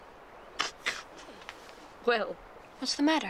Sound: chuckles

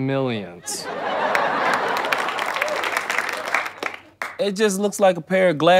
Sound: audience laughter

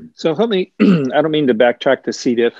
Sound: clears throat

